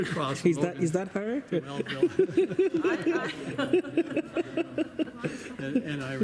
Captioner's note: laughing